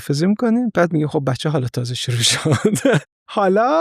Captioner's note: laughs